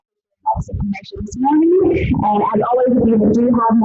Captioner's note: speech distorted